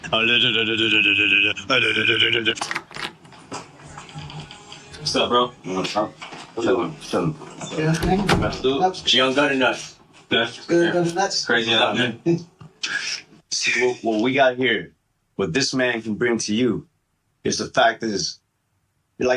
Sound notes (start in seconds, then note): 0.1 mockingly mumbling; 2.5 door open